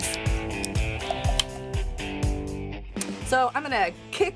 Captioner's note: bottle uncorking; beer pouring into glass